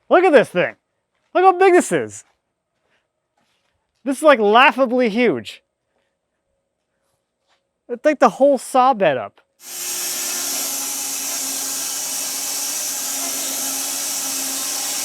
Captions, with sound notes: Look at this thing! Look how big this is! This is like laughably huge. It'll take the whole saw bed up. (saw buzzing)